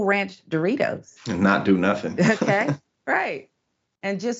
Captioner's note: laugh